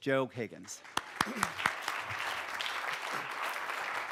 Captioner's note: audience clapping